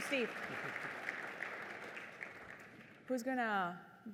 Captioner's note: applause